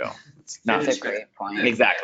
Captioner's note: laughs